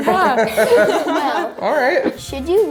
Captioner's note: laughing